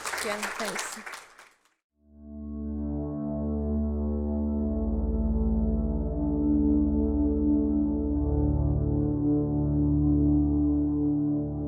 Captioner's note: applause